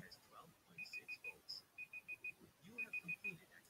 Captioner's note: beeping